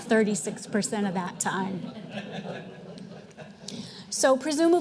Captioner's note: audience laughing